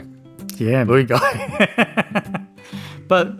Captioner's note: he laughs